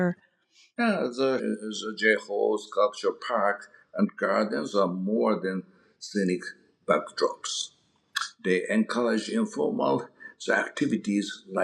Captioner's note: mouth smack